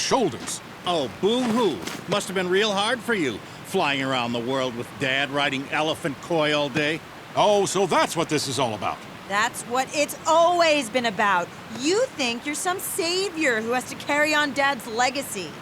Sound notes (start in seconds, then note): none